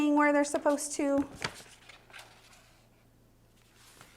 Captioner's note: rustling